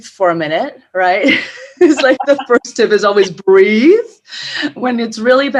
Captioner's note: laughs